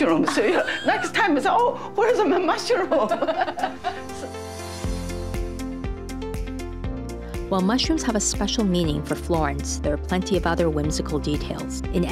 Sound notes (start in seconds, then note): 2.2 laughing; 4.6 cheerful music